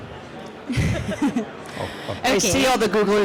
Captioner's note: laughter